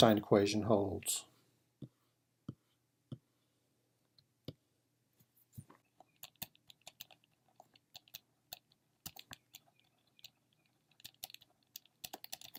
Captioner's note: typing